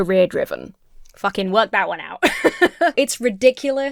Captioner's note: laughs